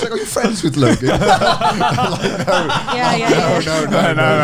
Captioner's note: all laughing